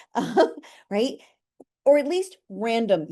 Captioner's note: chuckling